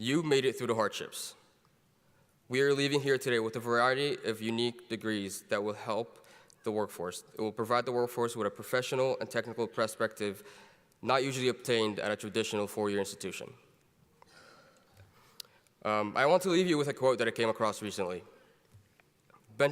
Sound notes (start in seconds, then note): none